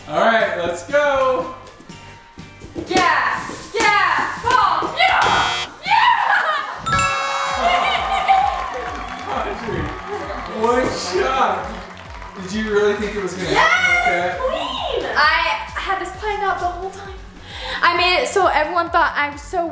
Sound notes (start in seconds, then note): 2.6 ball bounces; 5.2 buzzer; 5.8 cheering; 7.4 round of applause